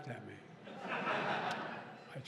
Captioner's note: laughter